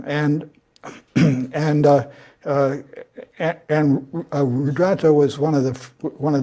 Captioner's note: cough